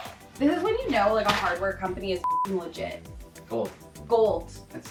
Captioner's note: beep